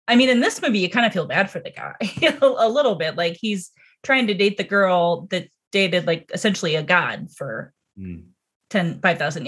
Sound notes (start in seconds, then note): 2.5 laughs